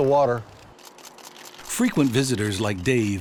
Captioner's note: camera shutters click